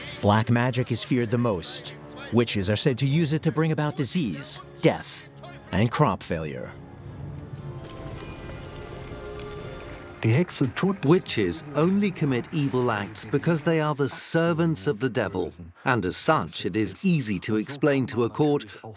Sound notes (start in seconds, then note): 7.8 sound of flames